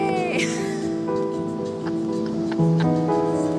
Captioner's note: laughs